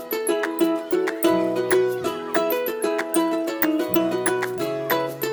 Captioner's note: bright music; children chattering